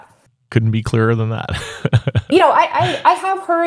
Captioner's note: chuckles